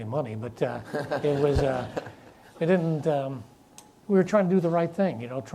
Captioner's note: audience laughs